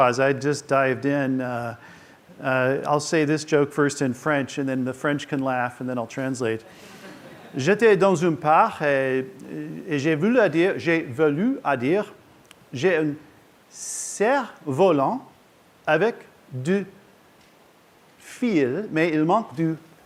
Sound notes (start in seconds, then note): 7.3 speaking french